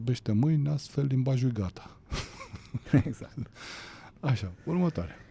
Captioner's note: laughter